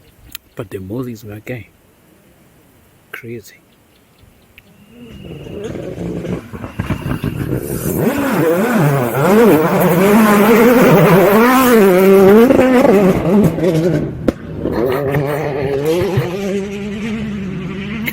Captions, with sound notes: But the mozzies my guy... Crazy! [Rally car sound]